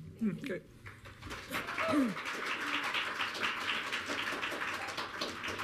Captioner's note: audience clapping